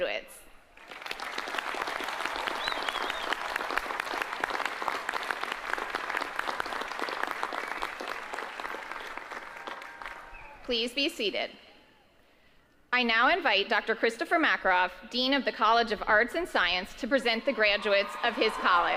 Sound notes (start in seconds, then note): 6.7 applause